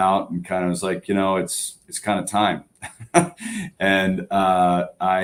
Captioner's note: laughter